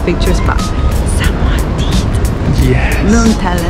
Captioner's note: whispering